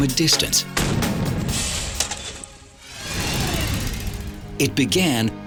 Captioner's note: explosion booms